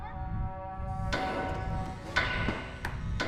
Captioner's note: bangs; clanging